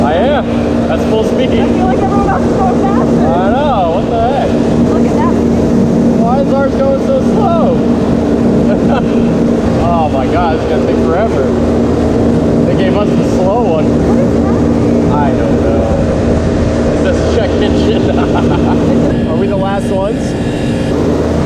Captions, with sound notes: - I am, that's full speed. - I feel like everyone else is going faster. - I know, what the heck? - Look at that one. - Why's ours going so slow? Oh my God, this is gonna take forever. They gave us the slow one. - What is happening? - I don't know. It says "Check engine." (laughing) Are we the last ones?